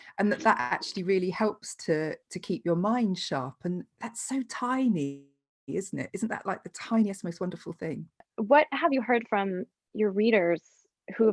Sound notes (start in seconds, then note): none